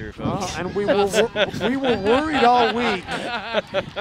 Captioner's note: all laughing